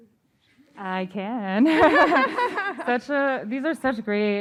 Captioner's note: laughter